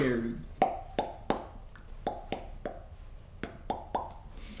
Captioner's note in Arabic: أصوات فرقعة